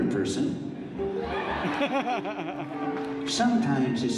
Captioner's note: audience laughs